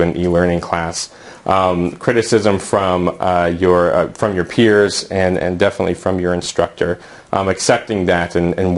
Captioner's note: uumm